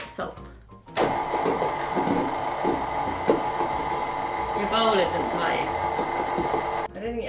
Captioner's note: mixer noise